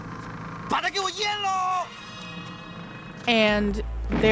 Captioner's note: actor speaking Cantonese